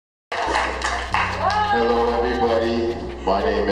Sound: clapping and shouting

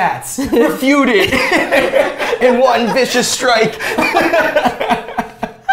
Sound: laughter

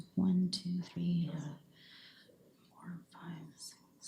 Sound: whispering

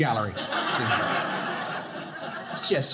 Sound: audience laughing

